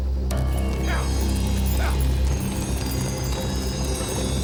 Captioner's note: distant riders grunt